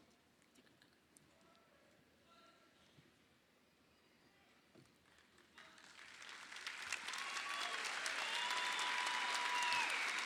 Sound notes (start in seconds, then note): 5.9 crowd applauds